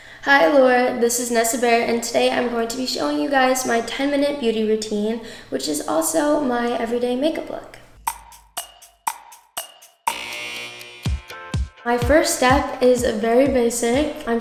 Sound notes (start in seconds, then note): 8.0 clock ticking; 10.0 alarm buzzes